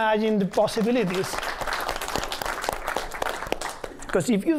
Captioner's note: applause